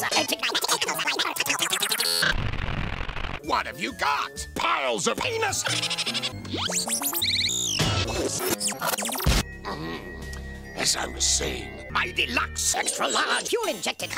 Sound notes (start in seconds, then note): 0.2 accelerating gibberish; 5.6 high-pitched cackling; 7.0 stuttery jumping and crashing noises; 9.1 truncated explosion